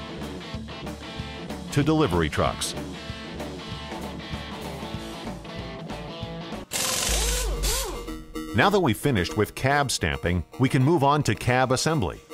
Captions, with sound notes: to delivery trucks. [sound of rivet gun] Now that we've finished with Cab Stamping, we can move on to Cab Assembly.